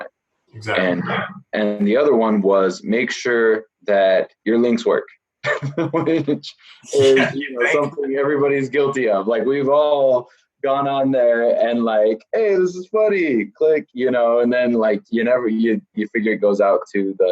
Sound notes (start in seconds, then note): 6.9 laughs